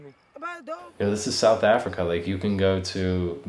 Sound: speaking native language

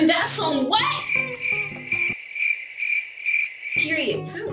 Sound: crickets chirping

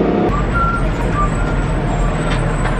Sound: someone whistling in the background

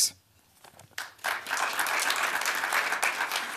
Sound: applause

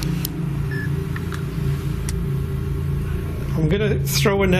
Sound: beeping

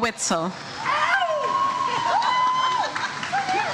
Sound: audience cheers

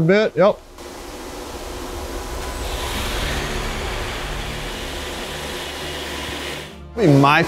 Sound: loud machine noise

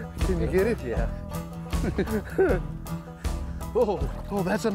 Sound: giggling

